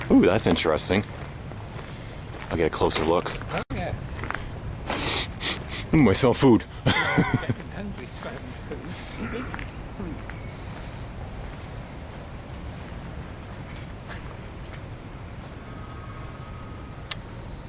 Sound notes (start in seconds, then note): 4.8 sniffing; 6.8 laughing; 17.0 click